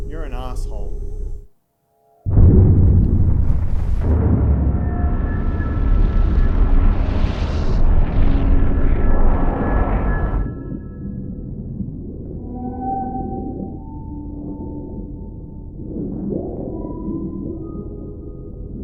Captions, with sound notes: - You're an arse hole. (explosions) (eerie ambience)